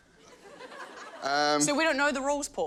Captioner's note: laughter